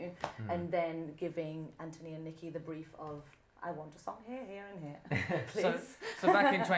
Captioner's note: laughter